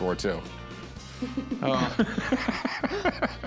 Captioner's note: laughs